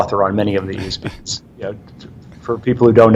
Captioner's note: chuckles